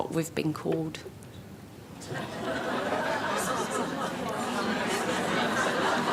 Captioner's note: laughter